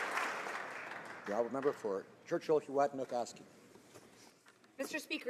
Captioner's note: some Applause